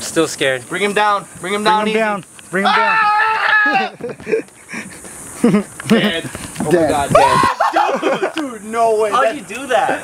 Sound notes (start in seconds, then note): 2.5 yells; 3.5 laughs; 7.4 laughter